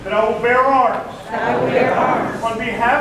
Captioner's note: crowd